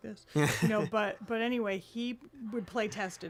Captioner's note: laughs